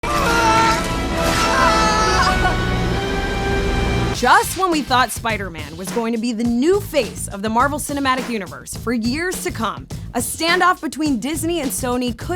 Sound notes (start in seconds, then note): 0.0 groaning; 0.1 soft dramatic music